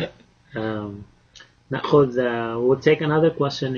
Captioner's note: speaking Arabic